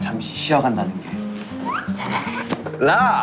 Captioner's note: Tertawa